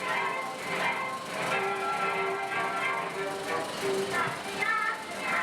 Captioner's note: film reel spins; cartoon music